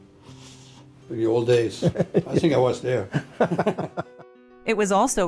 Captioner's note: they laugh